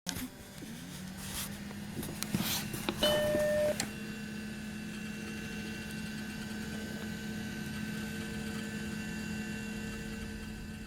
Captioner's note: computer Boot Up